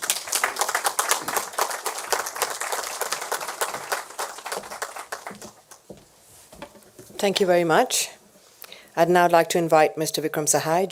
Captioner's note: applause